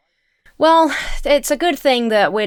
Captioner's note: sighs